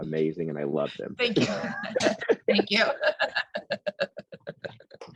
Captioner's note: laughing